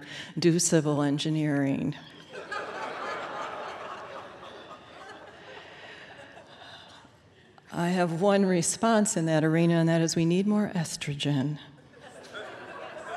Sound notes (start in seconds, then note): 3.7 laughter; 11.8 laughter